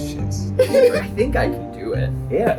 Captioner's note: giggles